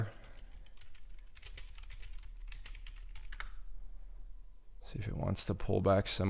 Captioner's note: keyboard clicking